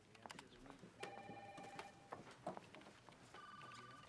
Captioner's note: telephone ringing